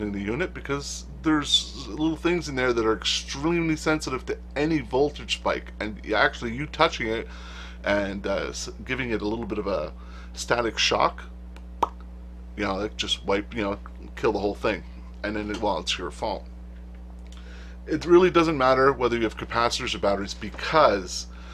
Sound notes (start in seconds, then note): 11.8 pop!